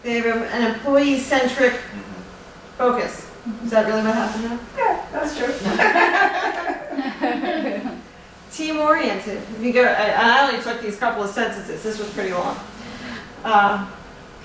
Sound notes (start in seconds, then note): 5.6 laughter